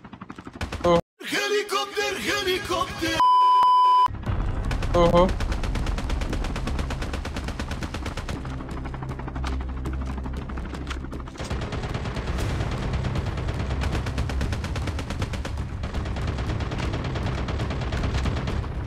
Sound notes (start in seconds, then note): 6.3 Firing shots